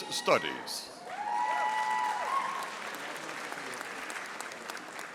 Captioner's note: audience applauding